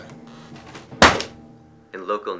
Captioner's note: folder slapping